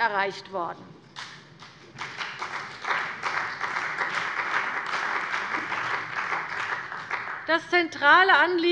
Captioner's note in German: Beifall bei der CDU und dem BÜNDNIS 90/DIE GRÜNEN